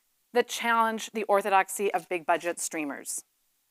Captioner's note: none